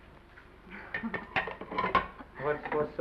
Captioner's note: Esther giggles; plate clatters